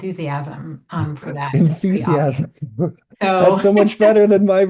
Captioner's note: laughs